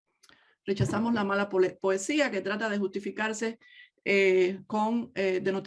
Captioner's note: speaks in native language